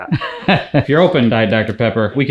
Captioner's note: laughs